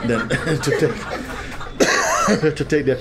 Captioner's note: laughter